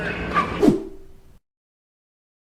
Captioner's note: swoosh!